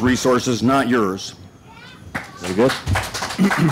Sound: applause

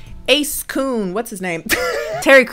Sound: laughs

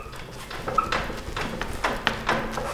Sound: quiet squeaking and rattling

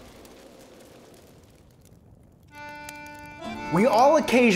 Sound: fire crackling

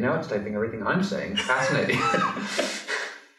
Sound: laughter

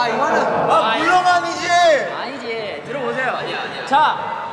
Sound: is shouting again

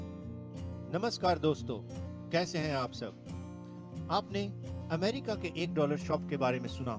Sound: non-english speech

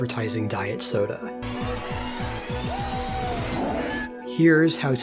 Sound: cheering, feedback, tiger roar

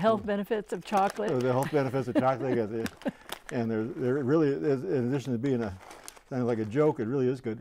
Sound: laughing

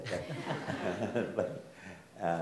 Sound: audience laughs

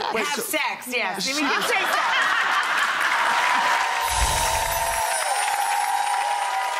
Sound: audience laughing; audience applauding

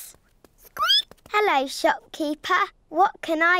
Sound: squeaks

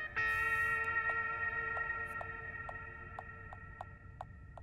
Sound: dings continuously

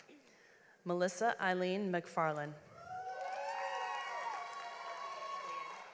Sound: audience applauds

